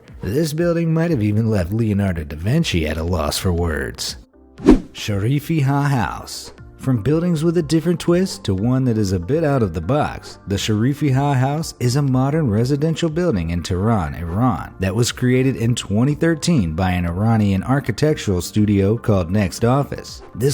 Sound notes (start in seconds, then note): 4.6 graphic whooshing